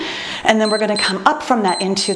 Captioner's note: timer beeps